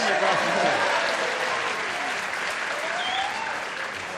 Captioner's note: applause